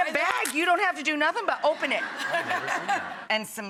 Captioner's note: audience laughs